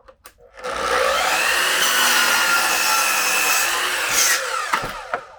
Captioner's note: machine grinding